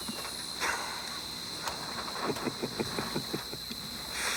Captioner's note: Bruto chuckles